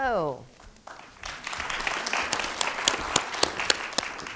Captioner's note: crowd applauding